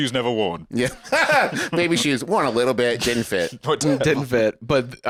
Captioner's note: laughs